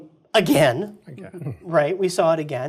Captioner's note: laugh